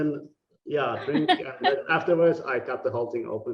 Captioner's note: laughing